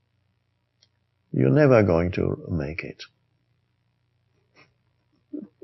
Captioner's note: chuckles